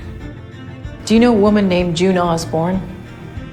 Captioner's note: voiceover